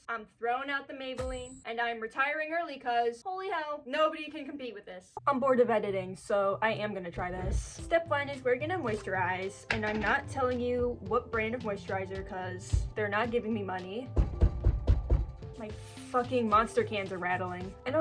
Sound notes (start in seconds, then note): 14.0 rattling